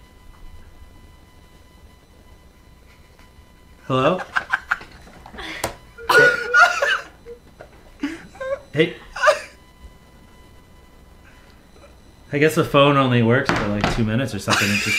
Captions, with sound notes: *silence* Hello? *laughter* Hey? I guess the phone only works for, like, 2 minutes or something.